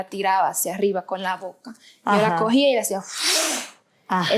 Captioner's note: blows